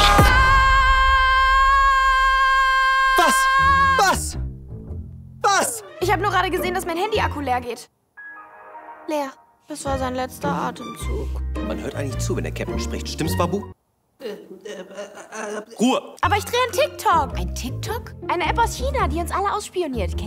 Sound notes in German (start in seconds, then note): 8.2 Windows 98 sound